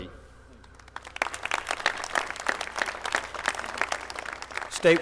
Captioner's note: applause